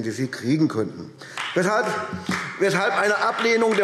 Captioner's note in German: Beifall AfD